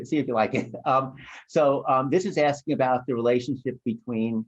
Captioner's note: laughter